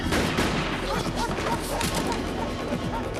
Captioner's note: groaning